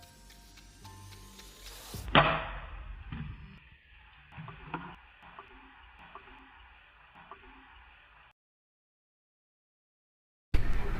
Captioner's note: bottle falling